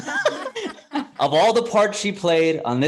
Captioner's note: laughs